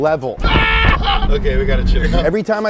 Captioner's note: yells